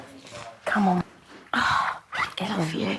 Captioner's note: sighs